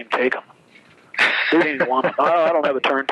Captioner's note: laughs